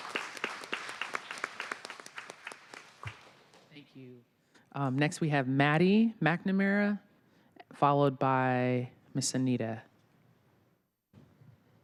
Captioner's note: applause